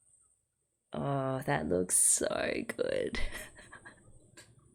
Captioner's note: laughs